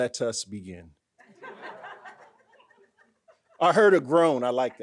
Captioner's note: audience laughing